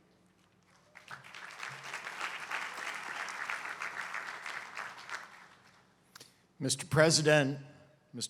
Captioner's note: applause